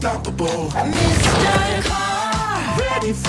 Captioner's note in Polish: łomot